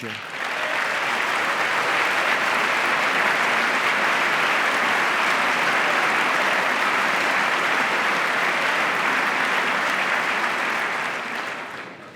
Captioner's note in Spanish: aplauso